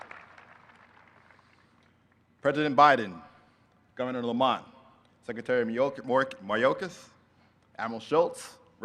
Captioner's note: applause